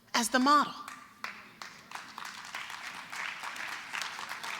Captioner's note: applause